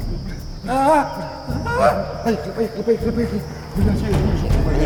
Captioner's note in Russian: крик